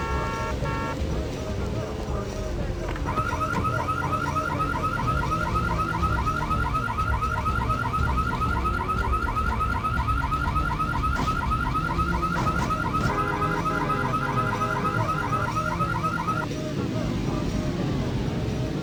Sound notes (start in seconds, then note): 0.0 horns blaring; 3.5 car alarm blaring; 13.6 car horn blaring